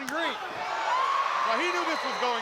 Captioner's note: crowd cheering